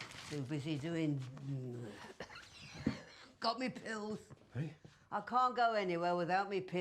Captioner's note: coughs